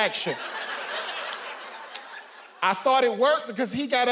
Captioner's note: audience laughing